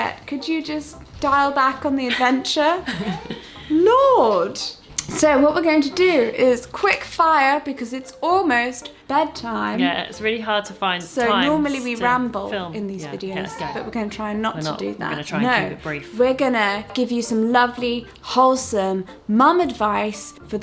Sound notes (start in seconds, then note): 1.9 laughs; 3.0 coos